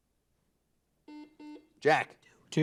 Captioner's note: buzzer beeping